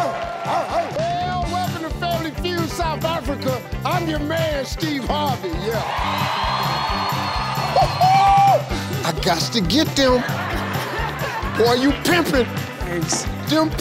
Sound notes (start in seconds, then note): 0.0 bright, upbeat music; 0.0 audience cheering and clapping; 5.2 audience cheering; 7.9 laughing; 10.5 audience laughing